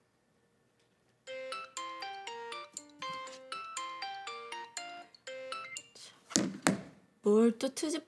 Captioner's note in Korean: 휴대전화벨 소리